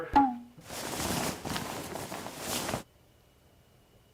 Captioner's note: fabric rustling